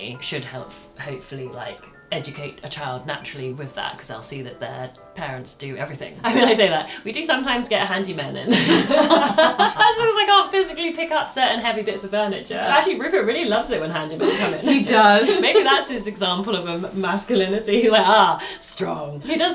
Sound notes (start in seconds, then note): 8.4 both laugh